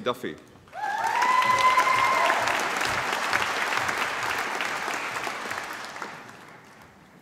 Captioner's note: applause